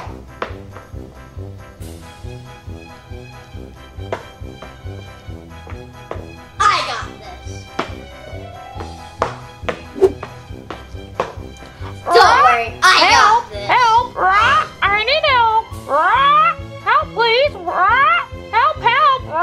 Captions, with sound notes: - I got this. Don't worry I got this. - (squawks) Help, help! (squawks) I need help! Help please! (squawks) Help help.